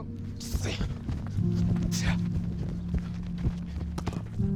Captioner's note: puffing